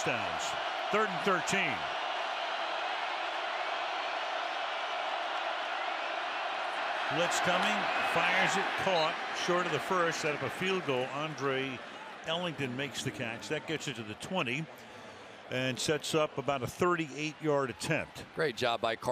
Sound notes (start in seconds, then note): 2.5 crowd cheering